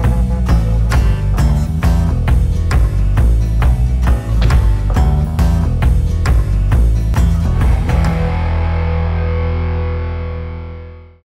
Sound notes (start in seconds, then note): 0.2 upbeat rock music; 4.2 thumping